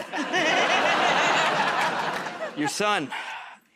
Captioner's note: laughter